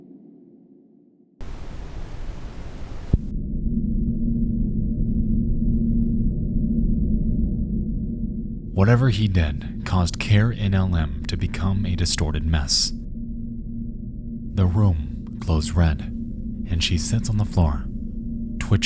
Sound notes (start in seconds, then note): 1.4 static sound